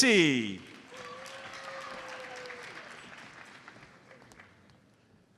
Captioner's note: audience applauds